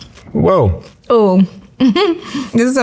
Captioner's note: chuckles